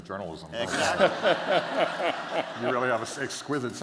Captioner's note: laughter